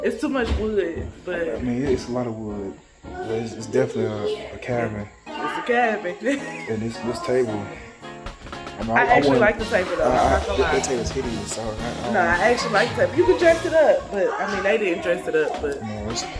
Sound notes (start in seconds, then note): 5.3 laughs